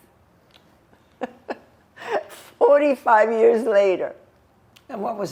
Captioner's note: laughing